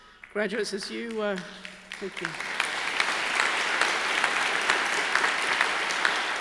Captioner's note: crowd applauds